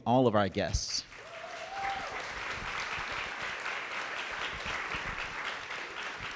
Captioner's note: audience cheering and clapping